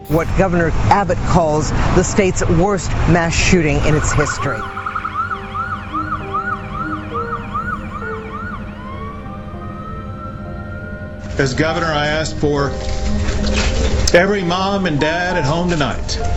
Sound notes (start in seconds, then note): 3.4 ambulance siren